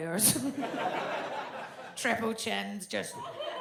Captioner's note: audience laughs